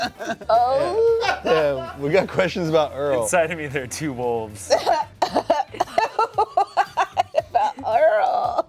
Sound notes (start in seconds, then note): 5.2 laughs